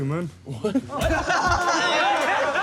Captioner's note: laughter